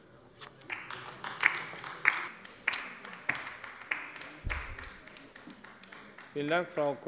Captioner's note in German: Beifall bei der LINKEN